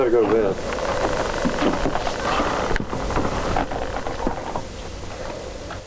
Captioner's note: footsteps crunching; wind howling